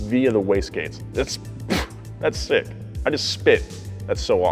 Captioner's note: spits